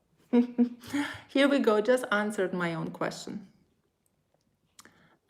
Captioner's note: laughs